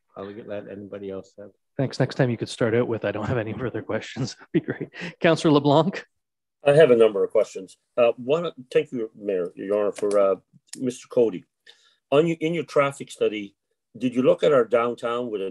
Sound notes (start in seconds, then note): 5.2 laughing